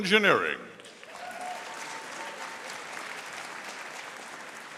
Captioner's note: audience applauding